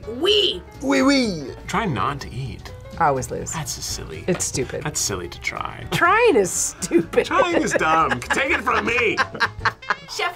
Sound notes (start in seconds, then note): 6.6 laughs